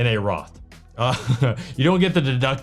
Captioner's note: chuckling